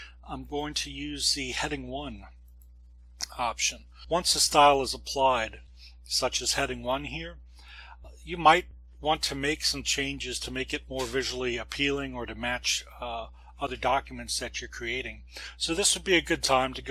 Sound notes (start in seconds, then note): 7.5 breath